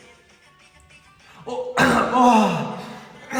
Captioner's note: big sigh of relief ㅋㅋㅋㅋ